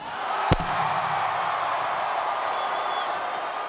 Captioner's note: audience cheers